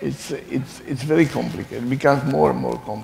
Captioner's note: laughing